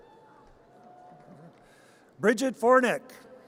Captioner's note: audience cheers